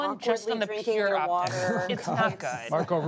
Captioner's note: laughter